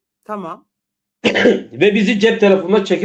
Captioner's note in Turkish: boğazını temizler